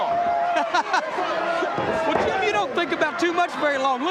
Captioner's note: chuckles